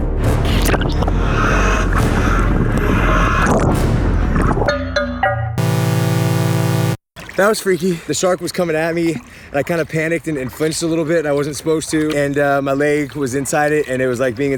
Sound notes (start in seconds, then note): 1.2 heavy breathing; 5.5 video game music